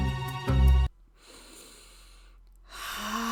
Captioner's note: static inhale; fluid exhale